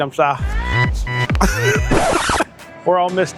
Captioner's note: laughing